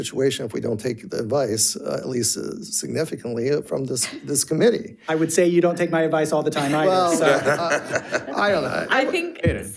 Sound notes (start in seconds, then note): 6.6 audience laughing